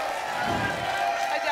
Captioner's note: applause and cheering cont; whoosh